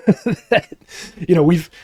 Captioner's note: both laughing